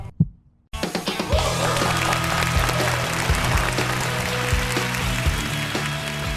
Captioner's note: applause